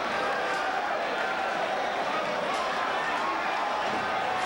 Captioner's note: spectators chanting "ECW!"; spectators cheering